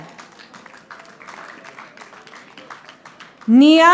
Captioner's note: audience applauding